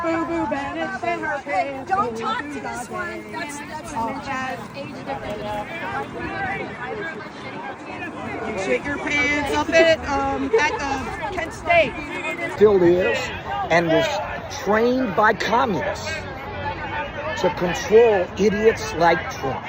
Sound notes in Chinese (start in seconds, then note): 6.8 人聲混雜